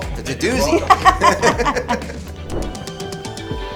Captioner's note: all laughing